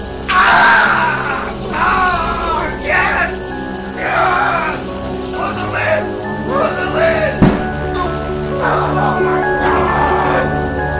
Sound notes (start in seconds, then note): 0.1 sizzling; 7.4 thud